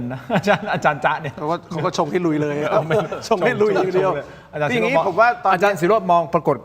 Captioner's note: laughs